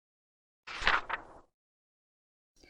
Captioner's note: page turns